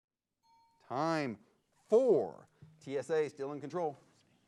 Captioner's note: bell dings